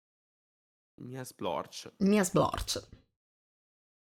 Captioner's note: gory sfx